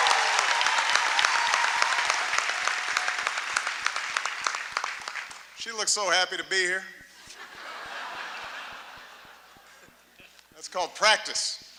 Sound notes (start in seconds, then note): 4.2 applause; 7.2 laughter